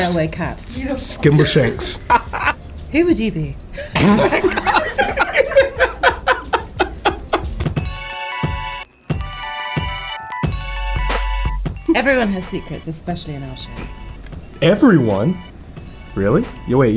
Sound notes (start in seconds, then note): 3.9 cast laughs; 8.2 twinkling music